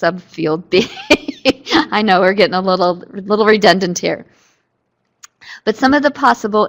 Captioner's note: laughter